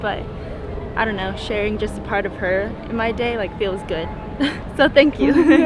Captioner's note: chuckles